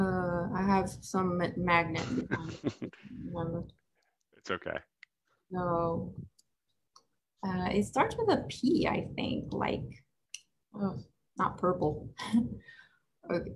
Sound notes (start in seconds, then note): 11.6 chuckles